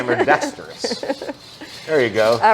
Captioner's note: laughs